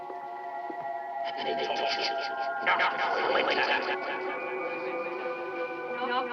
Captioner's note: man's voice echoing; woman's voice echoing